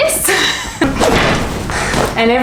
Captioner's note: dragging zipper